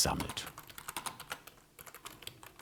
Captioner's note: typing noises